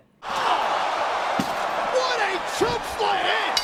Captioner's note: crowd cheers